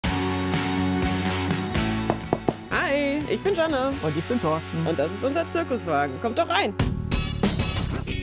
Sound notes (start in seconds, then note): 2.1 knock